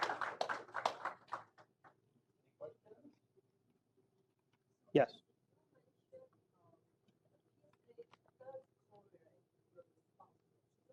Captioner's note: applause